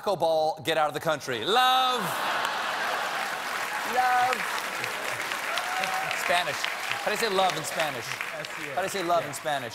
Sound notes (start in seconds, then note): 1.9 laughter; 2.1 applause